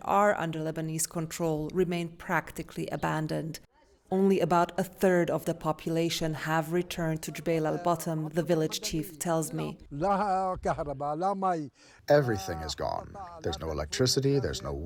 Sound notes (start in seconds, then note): 12.9 through translator